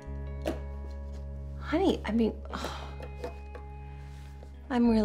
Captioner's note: sighs